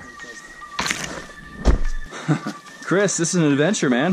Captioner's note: leaves swiping; laughing